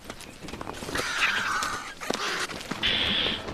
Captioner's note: birds cawing